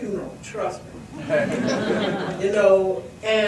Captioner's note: audience laughs